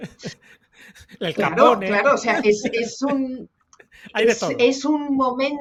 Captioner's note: laughs